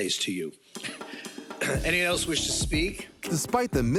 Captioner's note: clears throat